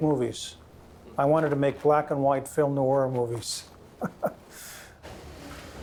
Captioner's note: laughs